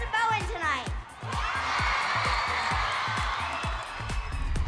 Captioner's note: cheering